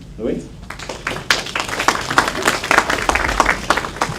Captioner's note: applause